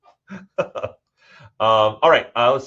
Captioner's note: all laughing